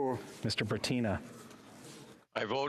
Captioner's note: speaking French